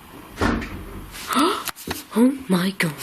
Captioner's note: banging; gasping